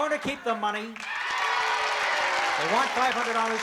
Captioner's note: cheering